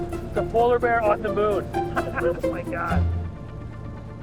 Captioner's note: chuckles